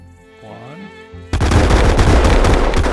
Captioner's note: guns firing